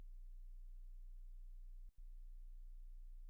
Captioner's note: none